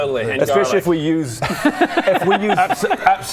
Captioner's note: laughs